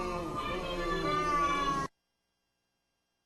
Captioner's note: protestor's speech drowned out by booing; silence